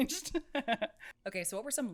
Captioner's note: laughs